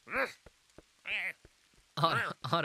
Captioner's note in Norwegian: Harald grynter i bakgrunnen